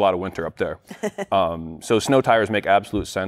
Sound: chuckling

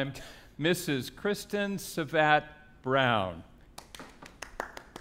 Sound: claps

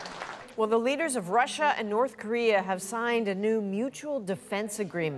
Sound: applause

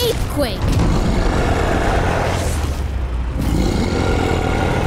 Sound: gorilla roaring

